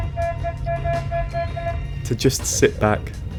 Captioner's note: honking